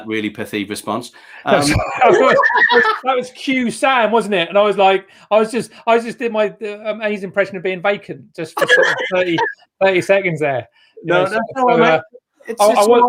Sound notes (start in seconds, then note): 1.6 laughs